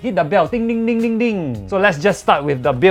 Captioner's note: dingdingdingdingding